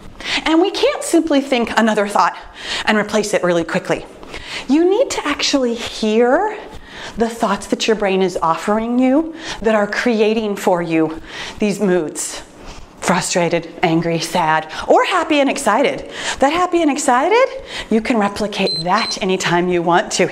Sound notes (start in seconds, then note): 18.6 timer beeps